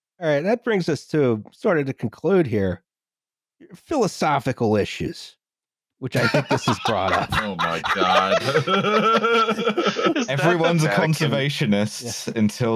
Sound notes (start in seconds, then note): 6.1 laughter